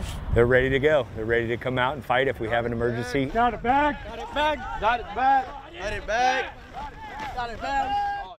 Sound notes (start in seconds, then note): 3.7 yelling